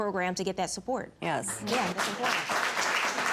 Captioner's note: audience clapping